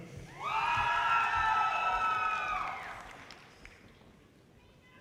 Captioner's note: audience cheers and applause